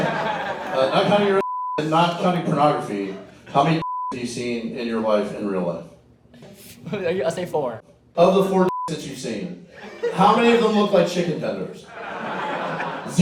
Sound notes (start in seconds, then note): 0.0 group chuckles; 1.4 beep; 3.8 beep; 8.7 beep